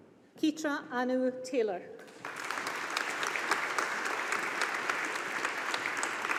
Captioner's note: audience applauding